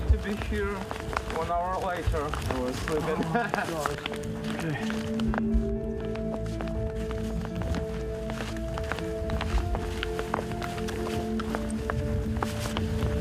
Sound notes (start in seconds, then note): 3.0 laughs